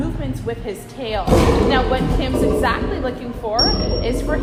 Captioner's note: lion growl; high-pitch whistle